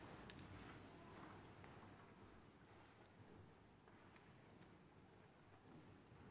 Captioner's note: none